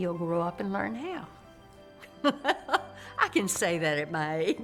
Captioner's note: laughing